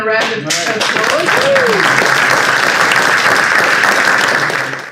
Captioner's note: audience applauds